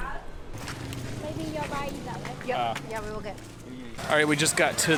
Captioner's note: light conversation in the background